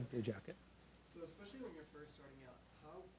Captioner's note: voiceover